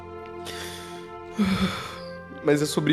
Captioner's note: sighs